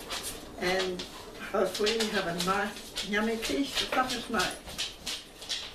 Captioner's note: clicking sound - nails on floor